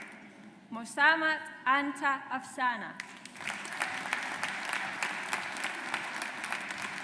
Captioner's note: audience applauds